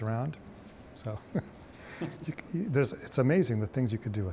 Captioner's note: both laughing